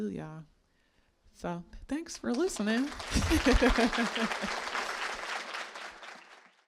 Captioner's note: audience applauding